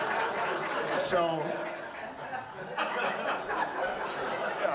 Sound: audience laughs

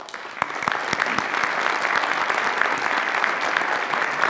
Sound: audience applauds

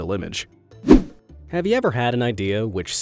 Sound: image whooshing

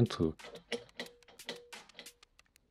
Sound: jiggle

